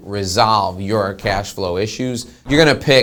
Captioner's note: whooshing